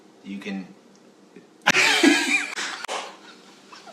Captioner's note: laughs